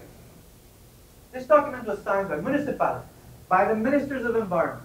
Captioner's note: spanish